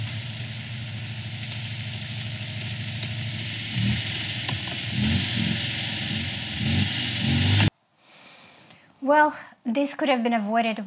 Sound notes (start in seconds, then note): 4.1 car engine revs